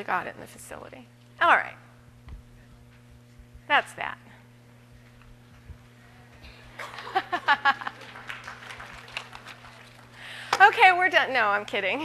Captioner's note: audience: Applause; laughter